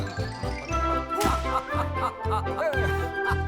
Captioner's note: laughing